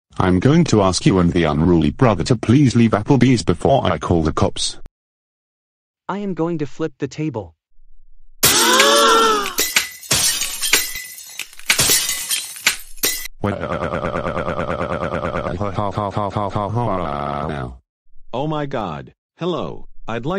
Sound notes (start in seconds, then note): 8.4 all gasp, glass shatters everywhere; 13.4 waiter crys